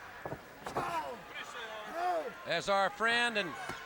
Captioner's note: crowd chatter